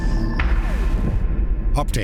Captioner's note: boom